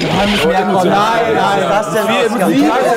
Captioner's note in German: Stimmengewirr